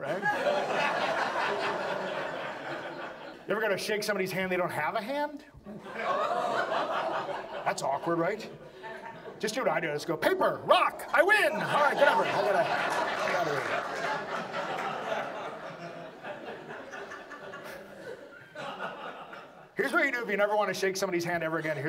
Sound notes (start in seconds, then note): 0.0 audience laughs; 7.6 audience laughs; 12.0 audience laughs